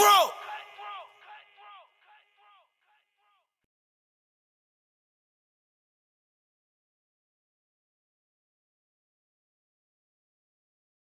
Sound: like 20 seconds of silence

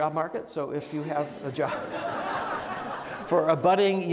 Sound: audience laughs

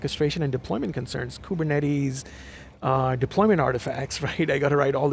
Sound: chuckles

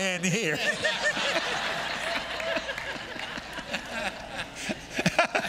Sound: congregation laughing

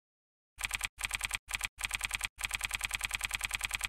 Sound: typewriter clicks

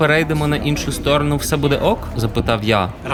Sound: in Russian

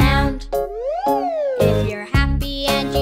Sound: whistle whooshes

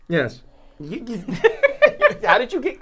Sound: Safiya laughing

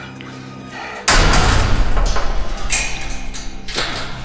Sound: gate closes, locks

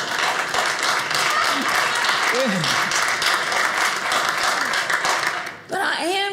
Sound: audience laughing; audience applauding

